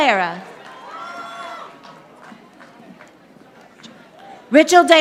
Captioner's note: audience applauding